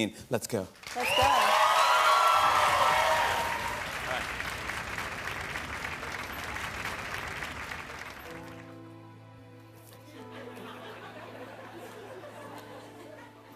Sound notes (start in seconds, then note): 0.8 cheers and applause